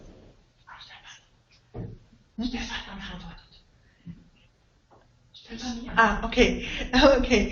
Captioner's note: voices in the background